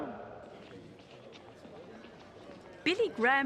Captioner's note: chatter